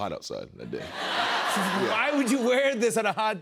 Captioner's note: laughter